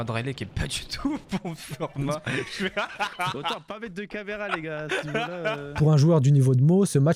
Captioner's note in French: rires